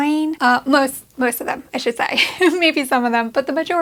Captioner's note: laughing